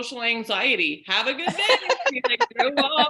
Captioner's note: laughing